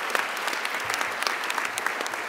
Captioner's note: applause